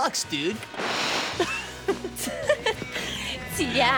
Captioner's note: laughing